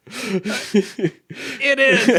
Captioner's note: chuckling